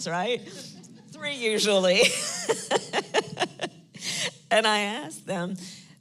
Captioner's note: laughs